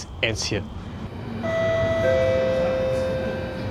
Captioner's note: announcement chime